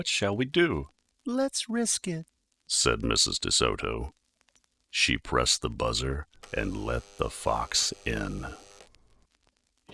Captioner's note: buzzer sound